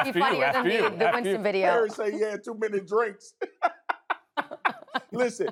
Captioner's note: laughter